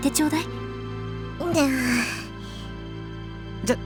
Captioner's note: weary sigh